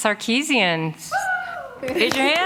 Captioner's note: applause